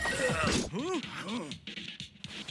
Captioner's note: all gasp